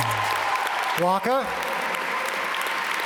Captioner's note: instrumental music; audience applaud